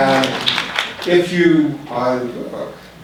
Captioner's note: applauding